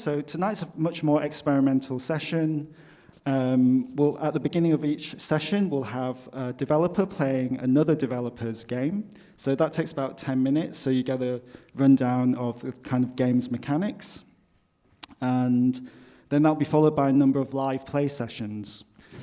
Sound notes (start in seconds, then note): none